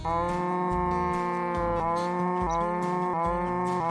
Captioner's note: moooooo